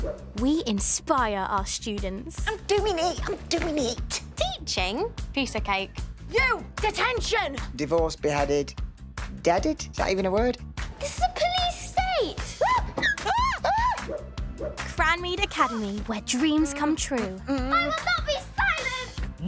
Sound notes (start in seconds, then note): 12.6 screaming